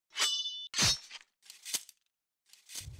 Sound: sword slashing

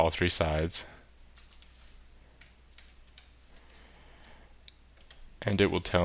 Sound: keyboard Sounds

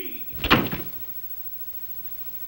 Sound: door closes

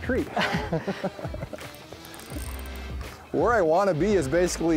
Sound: both laugh

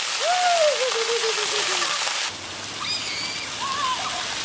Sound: children laugh

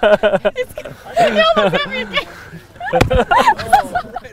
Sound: laughter

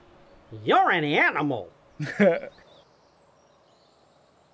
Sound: Brodog laughs

